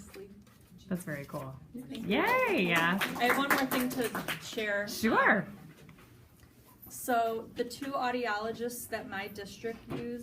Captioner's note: audience clapping